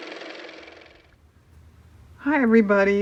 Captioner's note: car motor